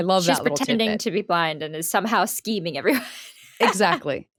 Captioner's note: laughing